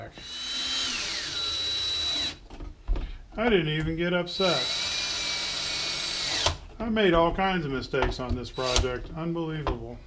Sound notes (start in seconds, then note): 0.2 drill whirring; 4.4 drill whirring